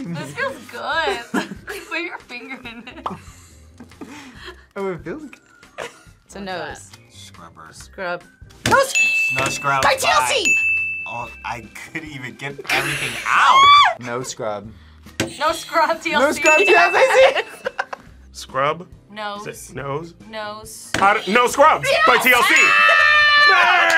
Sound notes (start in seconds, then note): 3.7 laughs; 8.8 bell rings; 13.2 screams; 16.4 buzzer rings; 16.8 both laugh; 21.0 buzzer rings; 21.8 screams